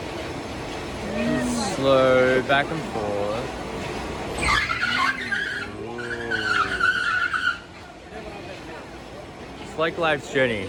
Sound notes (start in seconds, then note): 4.3 squeaky sound